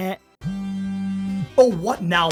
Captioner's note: phone vibration and ring sound